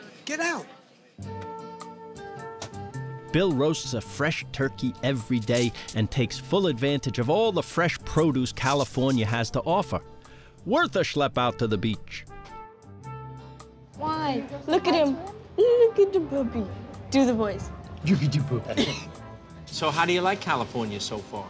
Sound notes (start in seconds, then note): 18.2 baby voice